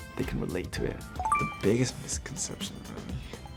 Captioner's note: beeps